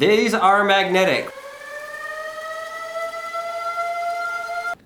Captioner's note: siren